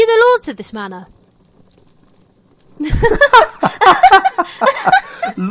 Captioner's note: pause, then laughter